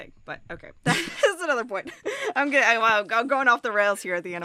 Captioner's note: chuckles